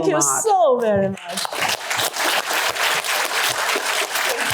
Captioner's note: applause